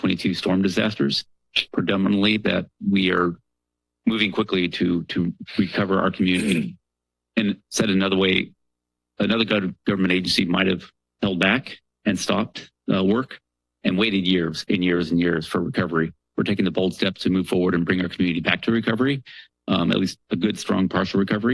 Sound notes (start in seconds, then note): 6.3 clears throat